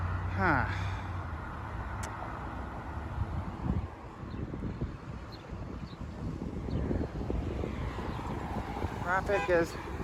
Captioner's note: Traffic on Ludwig Road